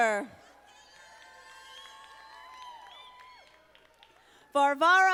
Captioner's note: audience applauding